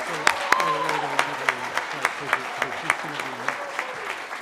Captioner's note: chatter